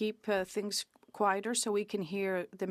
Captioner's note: speaking French